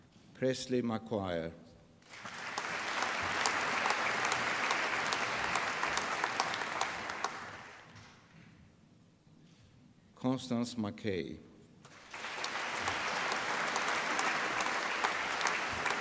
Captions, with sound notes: Presley McGuire. (APPLAUSE) Constance McKay. (APPLAUSE)